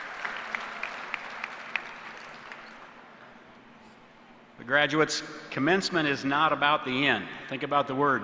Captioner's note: applause